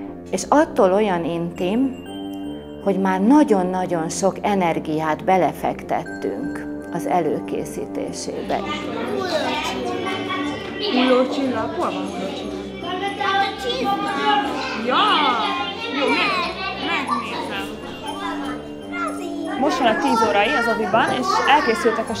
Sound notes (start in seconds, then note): 10.4 chatter